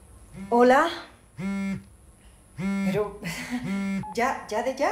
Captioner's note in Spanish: Suena otro celular